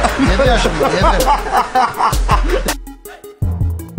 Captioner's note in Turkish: Hahahahah!